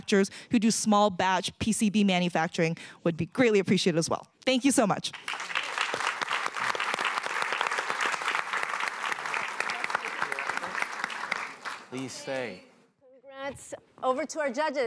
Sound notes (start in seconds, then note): 5.1 applause